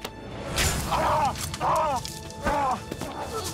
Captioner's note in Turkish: İnleme sesi